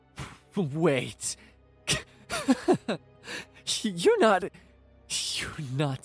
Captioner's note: incredulous laugh